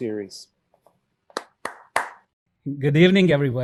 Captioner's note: hand clapping